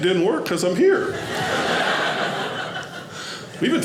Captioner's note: audience laughing